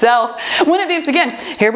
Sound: timer beeping

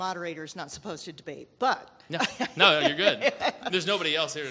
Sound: laughs

